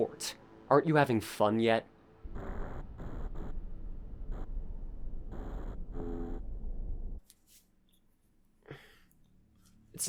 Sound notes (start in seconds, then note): 2.2 static; 7.1 silent shuffling